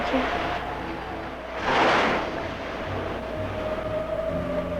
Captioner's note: waves crashing; eerie dramatic music